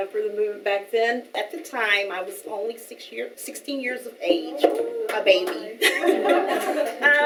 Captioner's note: laughing